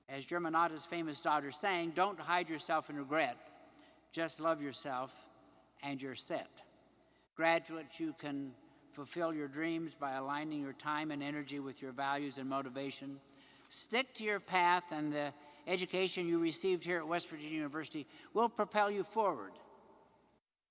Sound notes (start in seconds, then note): none